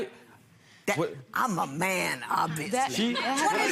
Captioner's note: laughing